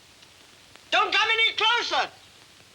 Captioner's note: none